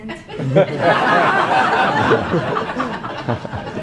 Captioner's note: laughing